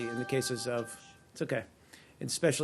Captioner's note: cell phone rings